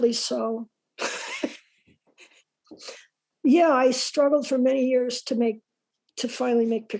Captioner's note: laughs